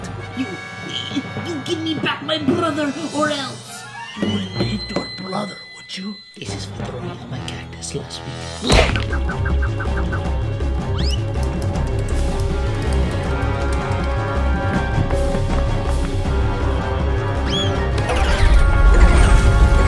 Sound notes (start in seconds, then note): 8.6 smack